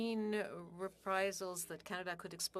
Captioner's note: speaking French